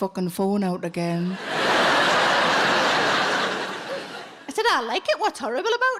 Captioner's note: audience laughs